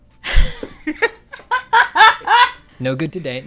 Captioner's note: laughter